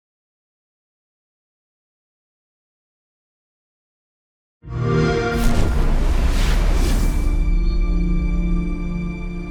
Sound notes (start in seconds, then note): 4.4 xbox sound